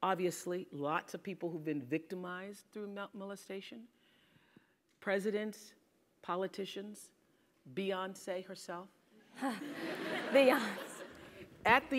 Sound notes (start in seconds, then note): 9.4 laugh